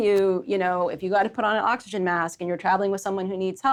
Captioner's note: none